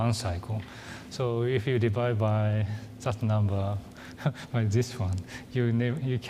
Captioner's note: laughs